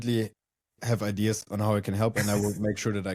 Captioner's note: laughs